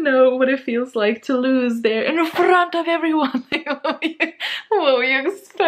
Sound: laughs hysterically

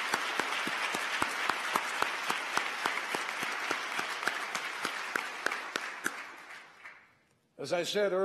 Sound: applause

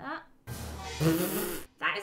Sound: puffs

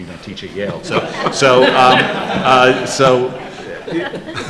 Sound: laughter

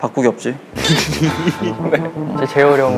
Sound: haha

